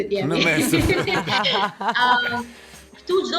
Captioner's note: laughing